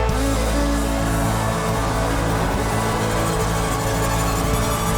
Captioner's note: rousing country music continues; audience cheering